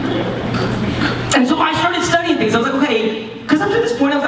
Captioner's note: none